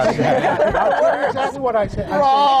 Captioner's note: laughter